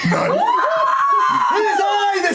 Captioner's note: yelling